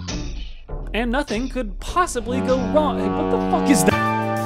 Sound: extremely loud boat honk

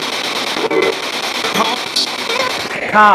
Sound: disembodied Voice

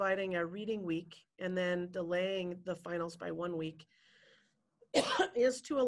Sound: coughs

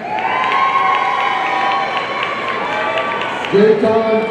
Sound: audience cheering

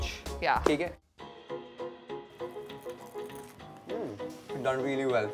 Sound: eating

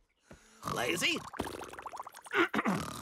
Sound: clearing throat; snoring

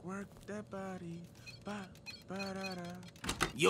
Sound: Skarra humming, video game beeping

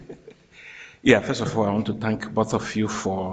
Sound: chuckles

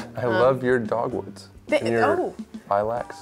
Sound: none

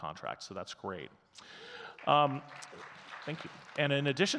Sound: audience clapping

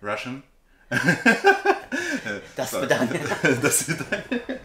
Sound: laugh

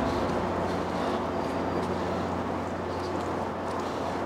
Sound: wind howls

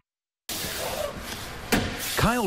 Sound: nat nail gun

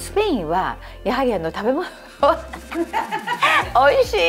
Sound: laughs

